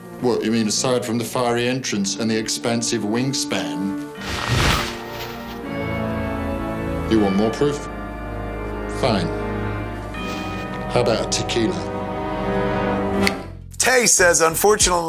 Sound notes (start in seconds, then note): 4.2 wings flutter; 4.7 intense music begins